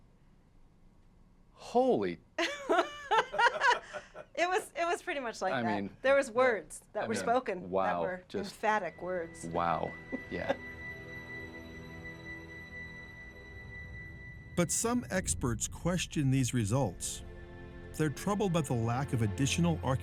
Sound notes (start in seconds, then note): 4.9 laughter